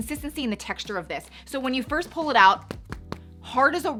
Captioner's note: thumps